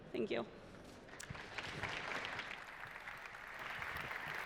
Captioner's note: applause